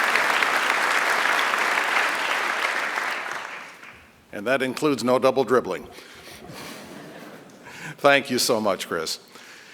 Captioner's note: applause